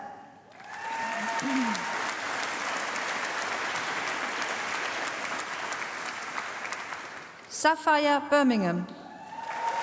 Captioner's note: applause; applause